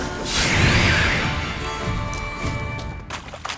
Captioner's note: drowners shriek